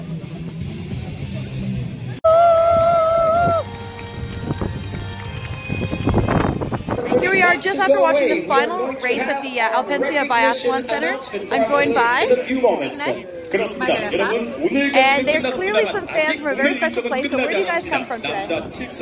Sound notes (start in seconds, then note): 2.7 applause